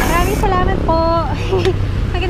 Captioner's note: laughs